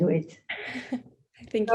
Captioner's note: laughs